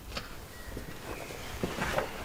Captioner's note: birds chirping